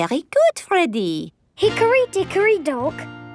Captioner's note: none